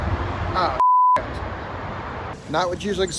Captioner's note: beep